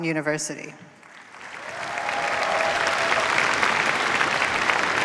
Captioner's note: cheers, applause